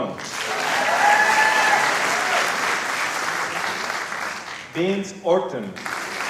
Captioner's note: applause